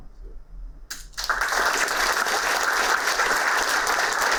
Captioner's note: applauding